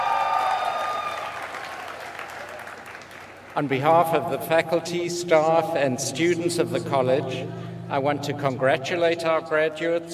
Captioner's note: applause